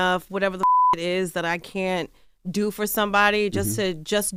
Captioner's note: beep